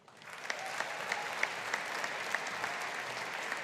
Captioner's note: audience applauding